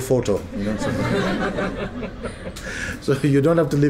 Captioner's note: laughter